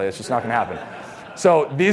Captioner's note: audience laughs